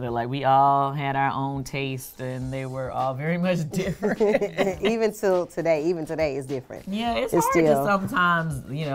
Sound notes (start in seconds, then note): 3.8 laughing